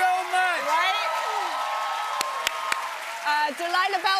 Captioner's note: cheers and applause